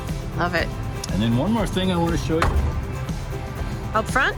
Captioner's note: door slams